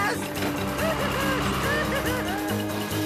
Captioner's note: Spud Crying